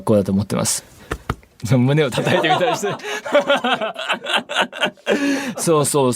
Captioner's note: chest thump noises